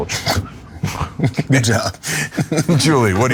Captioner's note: laugh